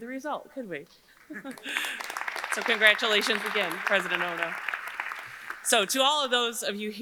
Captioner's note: chuckles